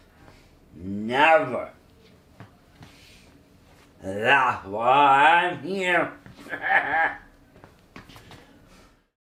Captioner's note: laughs